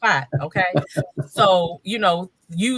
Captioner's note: panelists laughing